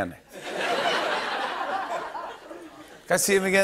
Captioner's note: laughter